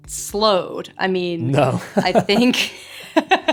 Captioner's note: laughter